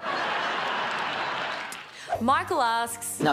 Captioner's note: canned laugter